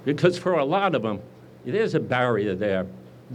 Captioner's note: none